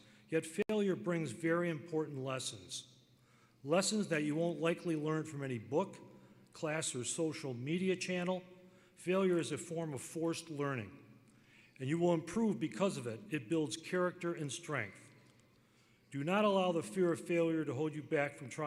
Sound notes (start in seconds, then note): none